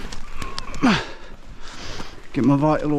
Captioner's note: grunts